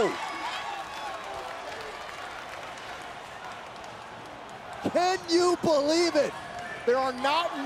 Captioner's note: applause